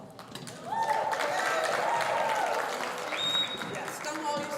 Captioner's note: audience cheering